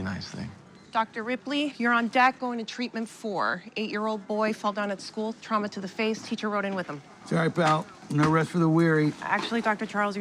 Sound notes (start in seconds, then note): none